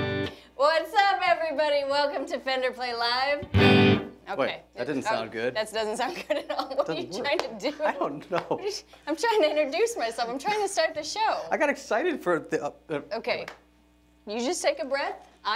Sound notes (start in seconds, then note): 6.0 laughs